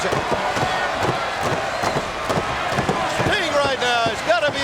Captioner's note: audience cheering